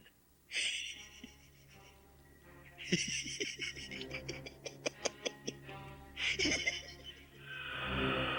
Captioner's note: Gatekeeper laughs as you take your Keystones